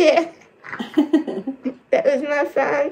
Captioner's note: laughs